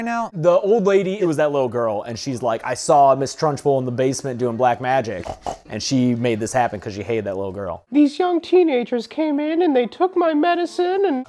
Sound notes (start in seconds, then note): 5.1 snort snort; 7.9 old lady voice